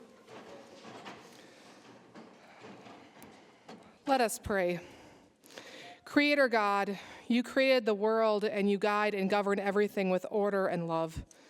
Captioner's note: banging Gavel